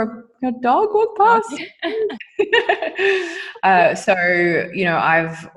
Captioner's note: both laughing